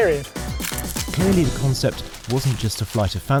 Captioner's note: camera shutter snaps